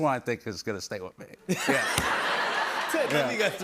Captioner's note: laughter